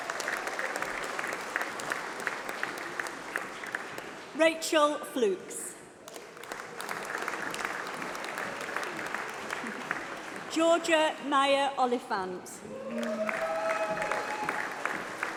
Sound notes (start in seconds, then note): 0.0 applause